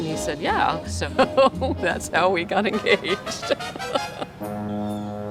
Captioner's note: laughs